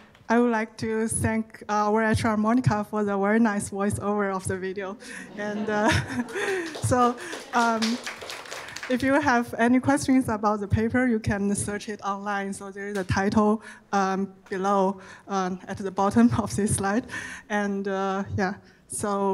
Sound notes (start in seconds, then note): 5.0 laughs; 5.9 audience applauding